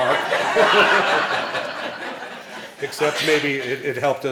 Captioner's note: laughing